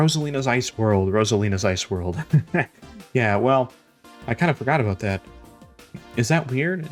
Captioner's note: laughs